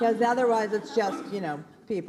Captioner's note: laughs